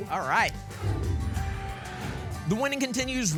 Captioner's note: whoosh